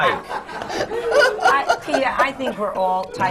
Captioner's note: laughter